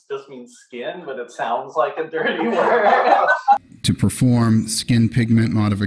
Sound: laughing

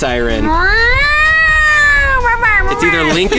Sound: air raid siren made by mouth

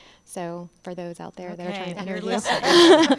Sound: laughter

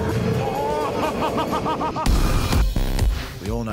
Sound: laughter

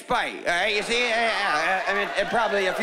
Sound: stammering

